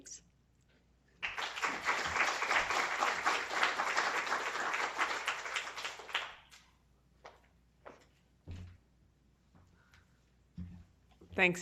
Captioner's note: applause